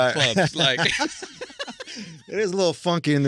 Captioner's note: laughing